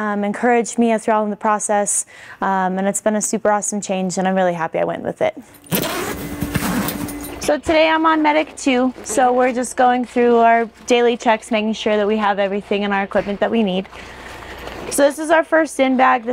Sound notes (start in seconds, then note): 5.6 zipper zipping